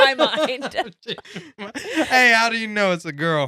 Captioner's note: laughing